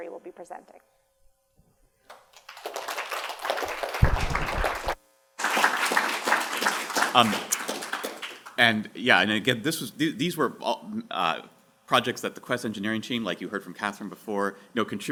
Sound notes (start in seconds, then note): 2.0 applause